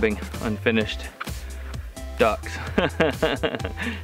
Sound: laughs

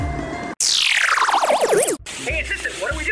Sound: futuristic chime

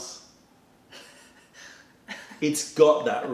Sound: laughter

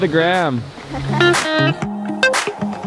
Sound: laughs; mellow music

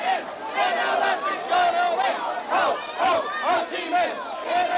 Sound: chanting

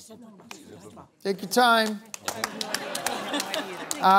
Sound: hares whispering

